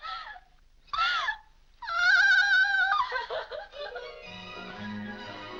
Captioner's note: Mary cries out; upbeat music